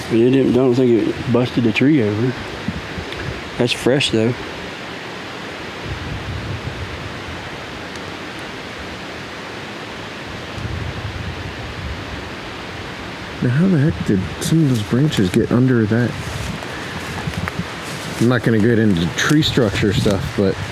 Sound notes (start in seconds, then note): 6.0 wind gusting